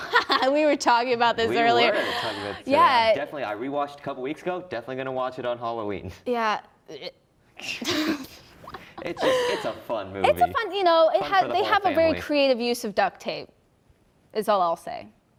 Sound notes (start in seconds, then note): 7.7 gags; 8.6 laugh